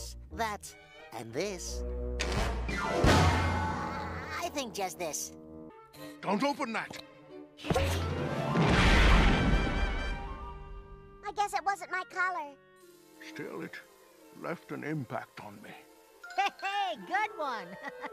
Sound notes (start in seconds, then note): 2.0 anvil noise; 8.5 explosion; 17.6 chuckles